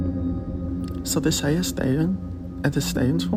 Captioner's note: speaking Danish